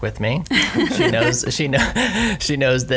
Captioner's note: laughs